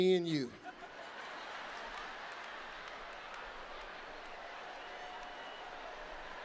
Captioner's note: audience laughing; audience clapping